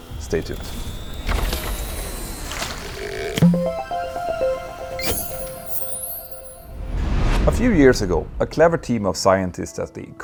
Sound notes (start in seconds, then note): 3.4 playful chime